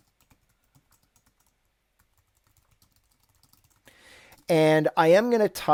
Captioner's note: gentle keyboard strokes